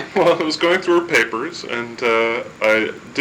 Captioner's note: laughing